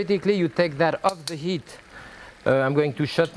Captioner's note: spoon clicking